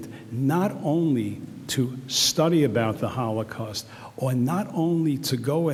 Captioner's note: none